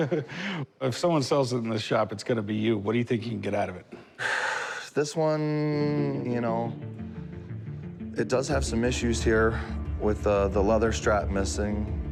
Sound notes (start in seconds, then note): 4.0 sighs